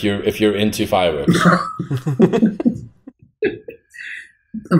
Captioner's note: chuckles